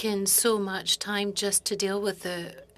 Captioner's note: speaking French